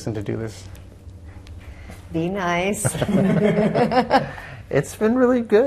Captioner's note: all laughing